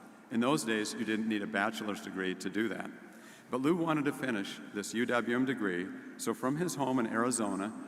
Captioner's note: none